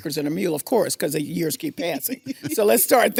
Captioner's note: laughing; laughs